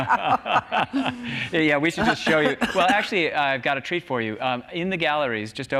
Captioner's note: laughs